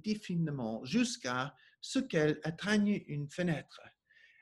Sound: speaking French

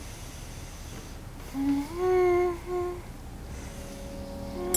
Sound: hummming

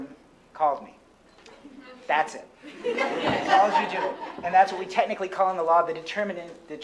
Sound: laughter

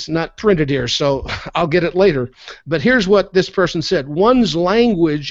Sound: chuckles

